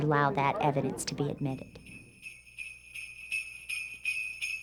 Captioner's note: bells jingling